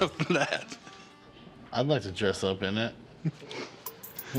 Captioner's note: laughs